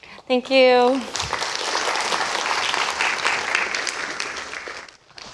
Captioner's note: applause